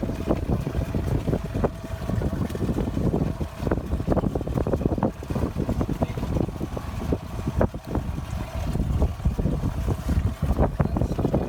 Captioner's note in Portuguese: vento